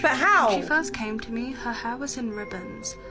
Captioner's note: woman's Voice